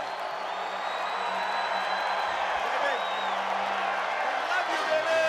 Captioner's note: crowd cheering